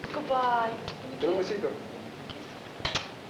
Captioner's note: Spanish speaking